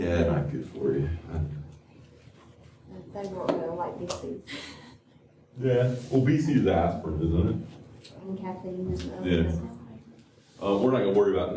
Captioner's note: laughter